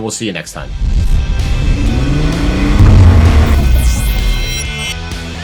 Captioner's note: motor revving